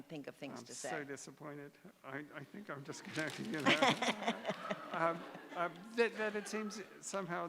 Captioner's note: laughter